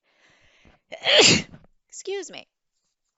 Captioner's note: sneezes